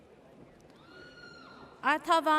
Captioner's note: audience cheers